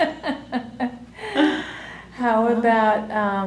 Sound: laughter

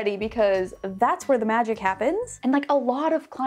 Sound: none

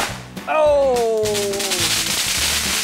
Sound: firework crackles; firework pops

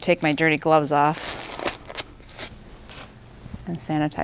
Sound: gloves snapping

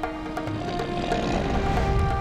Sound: grunting

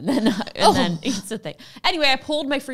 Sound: shudders

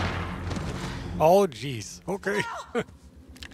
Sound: laughs

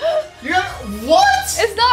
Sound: gasps

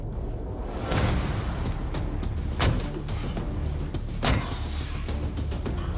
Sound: blade impacts

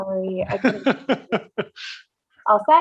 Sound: laughs

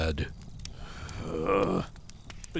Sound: groans in disbelief

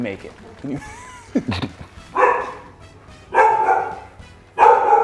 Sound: laugh

